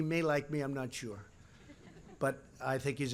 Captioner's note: laughter